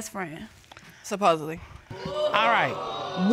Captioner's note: audience exclaims